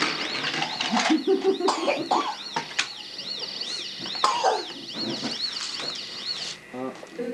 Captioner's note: toy siren wailing; woman laughing; baby coughing